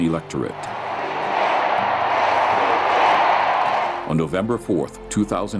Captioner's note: crowd